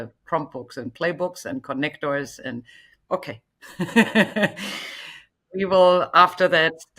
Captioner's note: chuckles